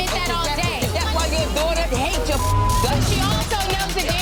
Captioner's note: beep